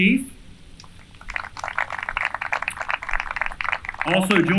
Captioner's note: applause